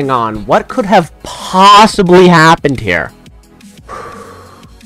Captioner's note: breath